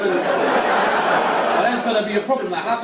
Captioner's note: audience laugh